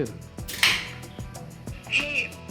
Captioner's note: beer can opening